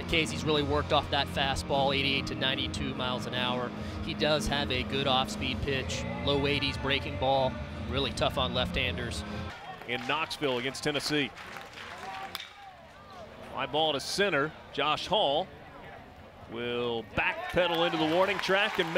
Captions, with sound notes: In case he's really worked off that fastball, 88 to 92 miles an hour. He does have a good offspeed pitch. Low 80s breaking ball, really tough on left-handers. In Knoxville against Tennessee. [crowd clapping] Fly ball to center. Josh Hall will backpedal into the warning track,